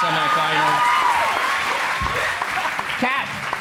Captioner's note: crowd applauds